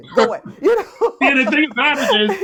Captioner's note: laughs